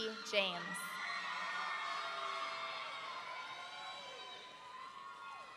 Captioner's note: audience cheering